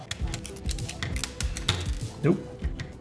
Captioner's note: controller parts snapping together